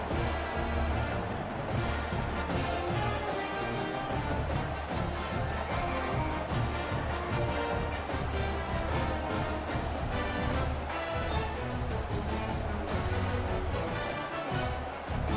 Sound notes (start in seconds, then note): 0.1 dramatic music; 3.0 crowd cheering